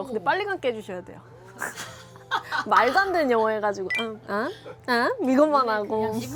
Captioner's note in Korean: 웃음